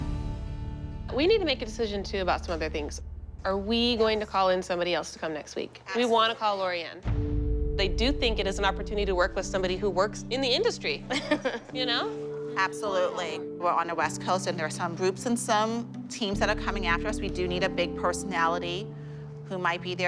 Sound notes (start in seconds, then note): 11.1 laughs